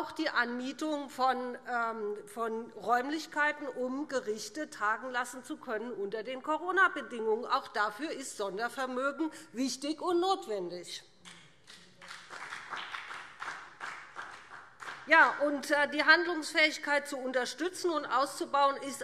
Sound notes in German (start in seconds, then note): 8.0 Beifall BÜNDNIS 90/DIE GRÜNEN und CDU